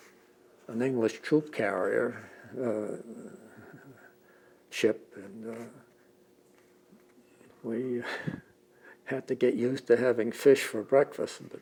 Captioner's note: laughs